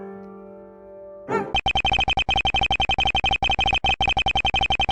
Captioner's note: electronic beeping